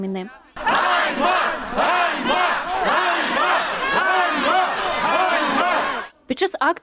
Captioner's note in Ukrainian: Лунають вигуки «Ганьба!»